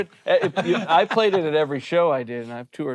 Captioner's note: group laughing